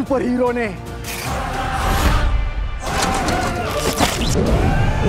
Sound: car falls

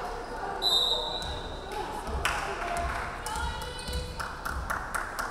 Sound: referee whistling

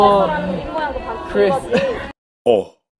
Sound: nervous laugh

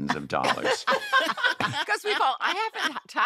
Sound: laughter

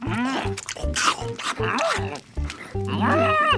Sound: witch and owl chewing loudly

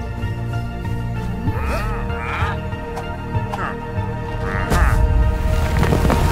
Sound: grunting

